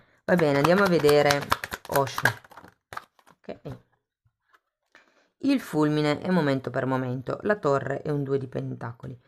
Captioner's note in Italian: Applauso